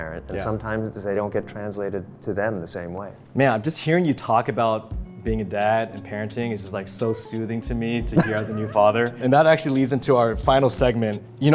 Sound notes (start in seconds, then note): 8.1 laughing